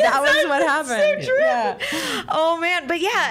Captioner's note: laughing